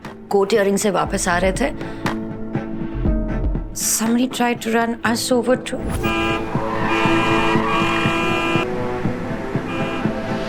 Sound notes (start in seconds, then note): 6.0 horn blaring